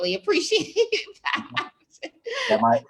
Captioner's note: laughs